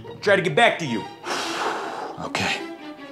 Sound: sighs

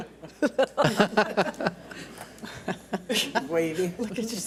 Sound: board laughs

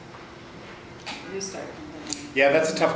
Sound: faintly speaking

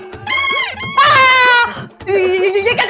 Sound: shouts

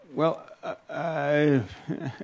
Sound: Adamus chuckles

